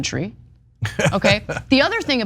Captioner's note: laugh